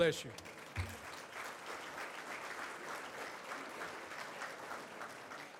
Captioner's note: audience applauds